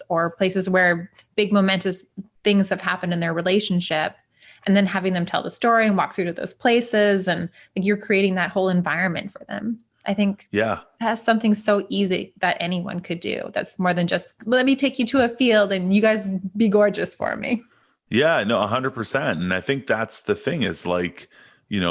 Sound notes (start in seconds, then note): 18.2 chuckles